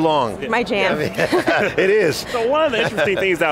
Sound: laughs

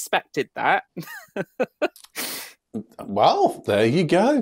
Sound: laughs

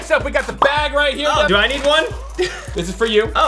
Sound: laughs

